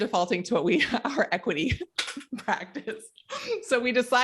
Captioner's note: laughing